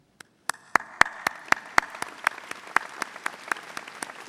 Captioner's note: audience applauding